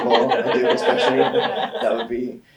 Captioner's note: all laughing